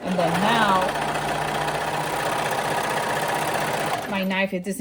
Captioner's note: machine whirring